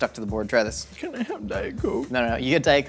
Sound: fake crying

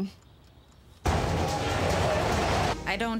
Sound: <i>engine chugging</i>

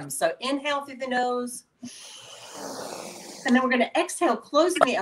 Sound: inhaling

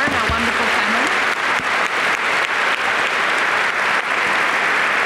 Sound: applause

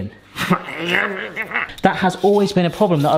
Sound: grumbling

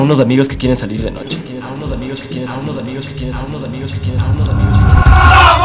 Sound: echos

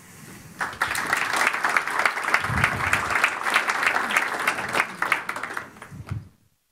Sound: applause

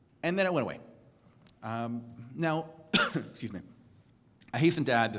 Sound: cough

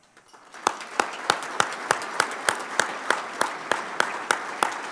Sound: audience applauding

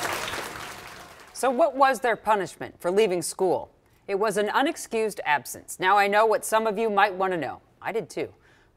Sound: cheering and applause

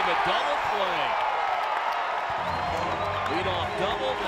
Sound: loud cheers

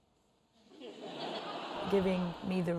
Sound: audience laughs

